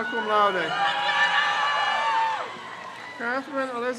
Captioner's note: crowd cheers